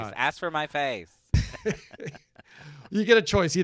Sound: laughs happily

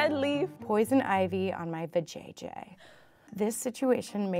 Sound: gasps

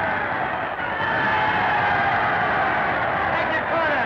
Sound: crowd cheering

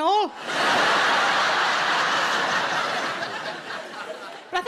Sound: audience laughing

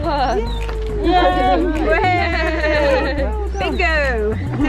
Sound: cheering

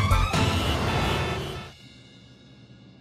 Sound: horn honking

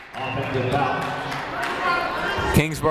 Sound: people shouting in the crowd

